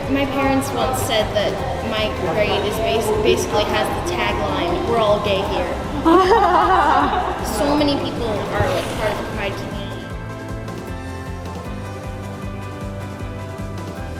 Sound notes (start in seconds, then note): 6.0 laughter